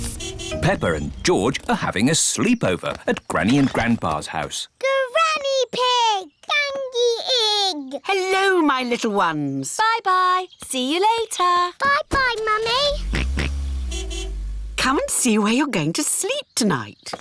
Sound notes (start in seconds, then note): 12.5 george oinks; 12.6 car horn honks